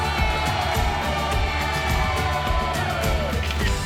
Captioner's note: audience cheering; camera shutters